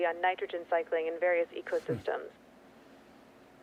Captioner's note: Mercer sighs